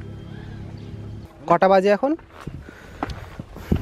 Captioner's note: breathing heavily